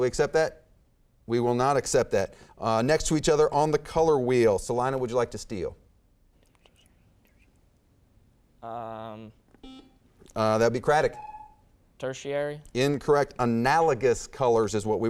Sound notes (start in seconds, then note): 6.6 whispering; 11.0 beeping